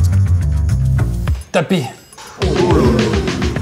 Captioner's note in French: Exclamation des spectateurs